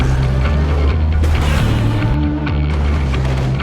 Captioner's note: Godzilla Roars; Kong Roars